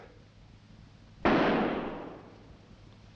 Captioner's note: gunshot